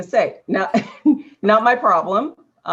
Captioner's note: laughter